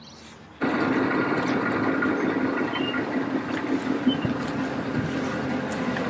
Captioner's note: parking lot noises